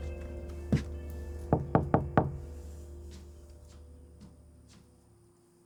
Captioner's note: knocking on door